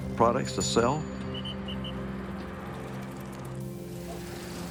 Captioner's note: whistle blowing, bicycle bell ringing